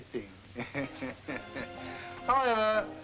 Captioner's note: all chuckling